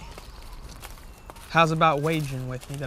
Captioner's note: birds chirp